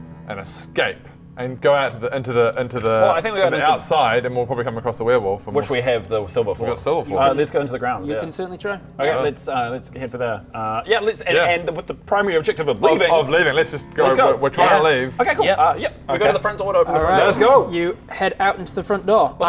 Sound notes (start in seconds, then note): none